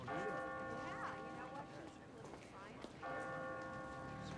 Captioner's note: bell tolling